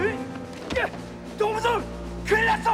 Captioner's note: Korean